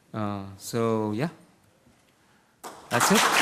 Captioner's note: applause